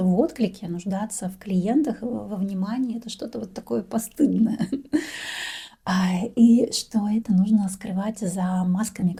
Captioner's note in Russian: тяжело вздыхает